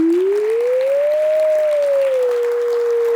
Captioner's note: applause